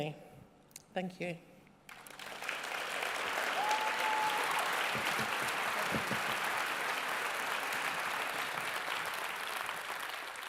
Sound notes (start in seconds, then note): 1.9 cheering and applause